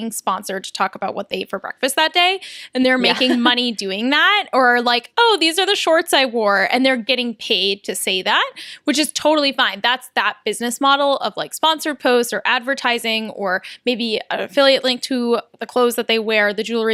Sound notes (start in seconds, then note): 3.0 laughter